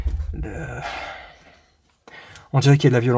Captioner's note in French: Soupire